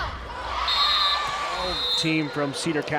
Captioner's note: players yelling; crowd cheering; whistle blows